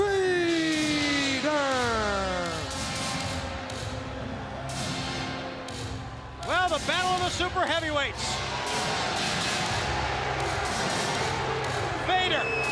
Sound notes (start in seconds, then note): 5.1 crowd chatter; 8.8 crowd cheering